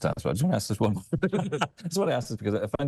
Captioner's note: laughing